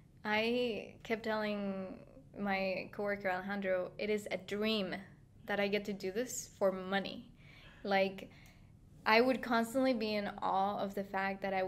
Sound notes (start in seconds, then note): none